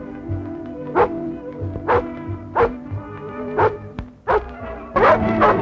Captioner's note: barking